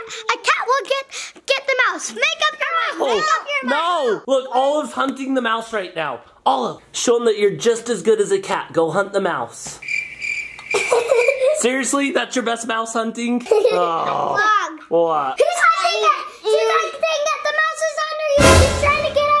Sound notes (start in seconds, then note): 9.9 chirping sound; 18.4 jump scare sound